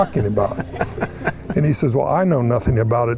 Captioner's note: participants laughing